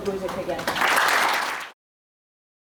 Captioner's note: applause